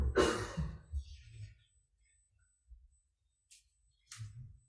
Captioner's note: man coughs loudly